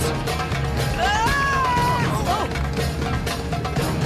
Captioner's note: yelling